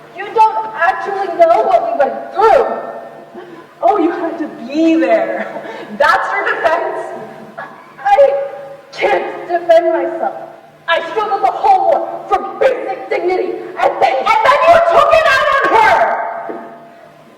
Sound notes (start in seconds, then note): 5.4 laughs derisively; 8.0 crying